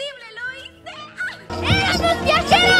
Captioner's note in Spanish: grito de emoción